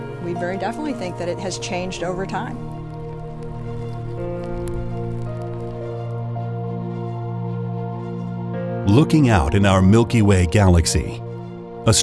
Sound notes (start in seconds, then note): 2.5 lava crackling; 2.5 soft dramatic music